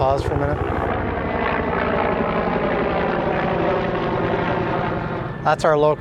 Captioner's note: helicopter whirring